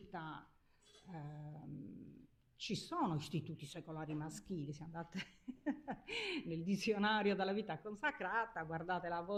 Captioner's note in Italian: risate